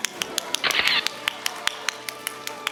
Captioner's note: audience applauding; camera shatters; audience applauding